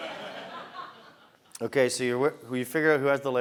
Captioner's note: laugh